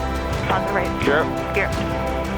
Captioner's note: upbeat music; pilots chatter